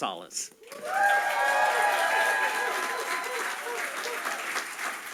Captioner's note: audience applauding